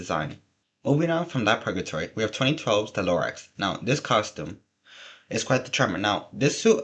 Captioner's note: deep breath